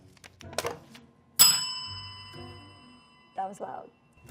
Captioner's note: bell ringing